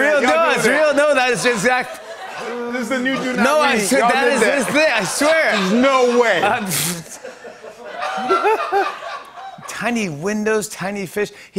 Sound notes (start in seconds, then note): 6.5 laughter